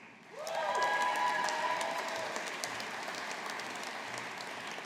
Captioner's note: audience applauding